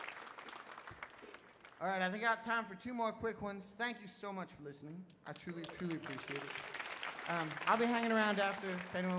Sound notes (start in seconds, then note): 5.3 audience applauds